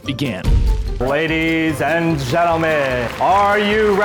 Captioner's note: crowd cheering